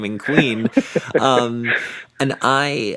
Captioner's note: chuckles; laughs